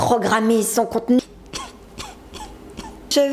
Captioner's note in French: pleure